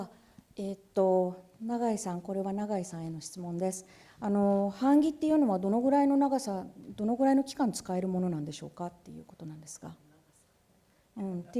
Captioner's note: speaking japanese